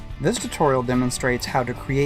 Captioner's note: voice-over